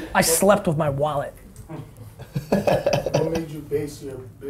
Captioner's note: laughing